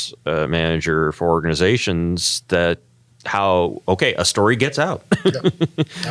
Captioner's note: laugh